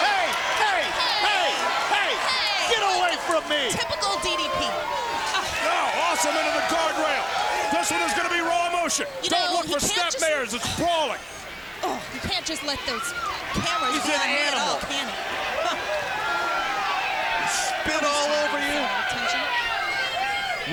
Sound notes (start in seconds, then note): 1.2 crowd clamoring; 4.9 crowd clamoring; 11.9 grunts; 16.0 crowd clamoring; 18.9 faintly speaking